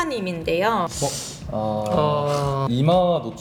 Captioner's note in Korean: 일동 탄식